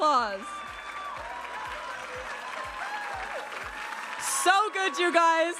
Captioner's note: audience applauding and cheering